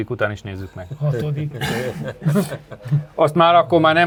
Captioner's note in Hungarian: nevetés